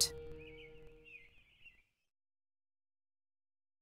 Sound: birds chirping

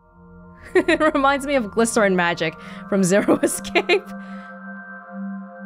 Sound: chuckles

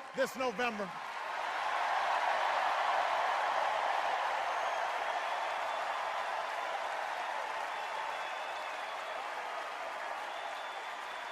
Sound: hoots, enduring cheers and applause

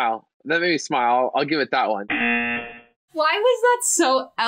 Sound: buzzer rings

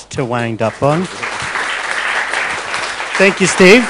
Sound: audience applauding

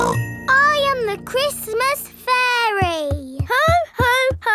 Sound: snorts

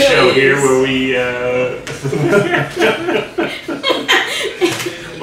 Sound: everyone laughing

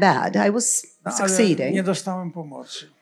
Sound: foreign language

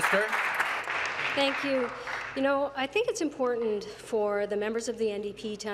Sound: applause

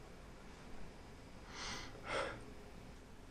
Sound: deep breath

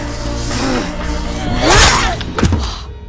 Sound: slicing

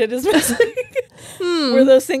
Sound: both laughing

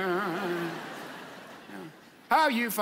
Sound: audience laughs

